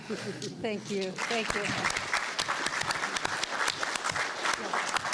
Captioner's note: applause